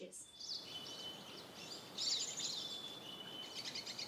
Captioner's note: birds chirping